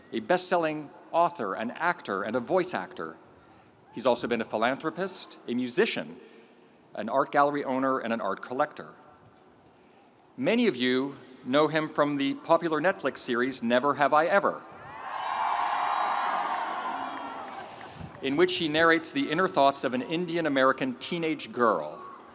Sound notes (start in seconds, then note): 15.0 audience cheers